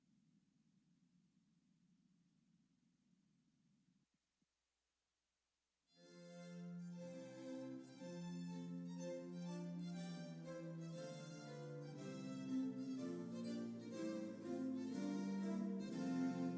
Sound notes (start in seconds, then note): none